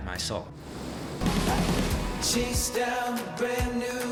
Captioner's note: water rushing